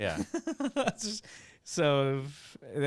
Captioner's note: laughs